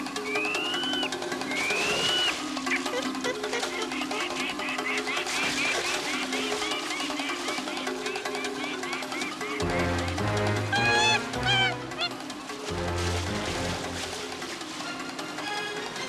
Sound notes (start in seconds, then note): 0.3 chimpanzees scream; 9.6 Cheetah yells; 9.6 dramatic music